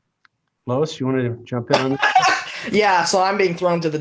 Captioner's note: laughing